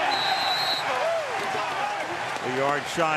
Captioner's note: whistle